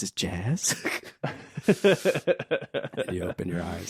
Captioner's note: laughing